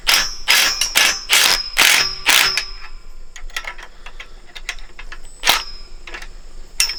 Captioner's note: clanking